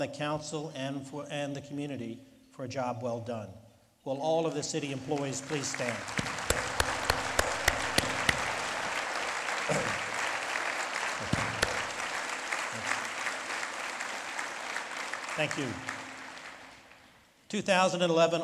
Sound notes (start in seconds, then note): 8.9 lead Applause